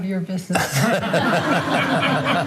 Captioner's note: laughter